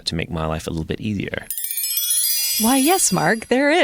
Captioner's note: tinkling chimes